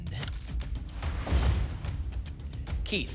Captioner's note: whoosh; thump